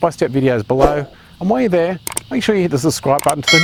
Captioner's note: mouse clicking; bell dings